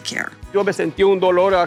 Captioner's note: speaking Spanish